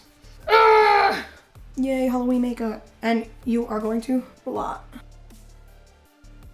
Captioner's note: groans